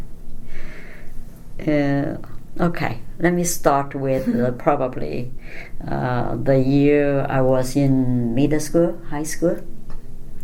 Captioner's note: laughs